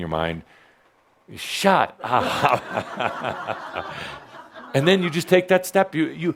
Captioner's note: laughter